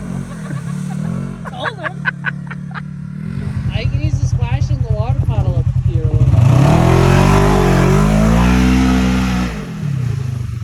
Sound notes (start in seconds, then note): 7.0 ATV engine roaring